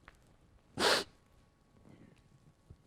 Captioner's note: cries